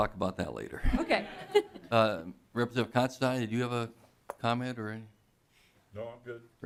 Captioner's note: laughing